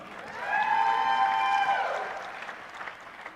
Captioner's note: applause